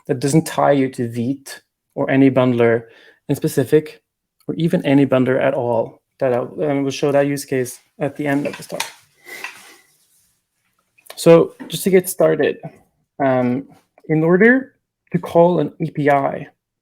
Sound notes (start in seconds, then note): none